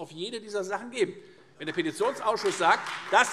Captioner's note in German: Beifall Freie Demokraten